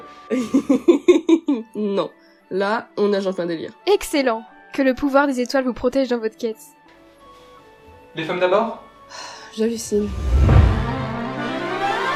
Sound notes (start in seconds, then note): 0.4 laughs; 9.4 sigh